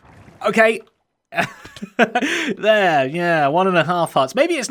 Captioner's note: laughs